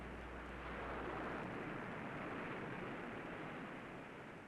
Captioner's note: waves lapping